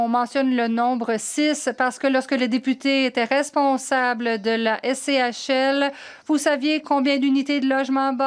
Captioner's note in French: voix de l'interprète